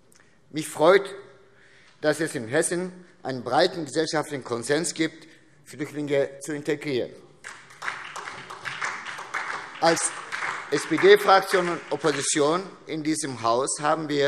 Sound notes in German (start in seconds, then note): 7.4 Beifall SPD, DIE LINKE und vereinzelt BÜNDNIS 90/DIE GRÜNEN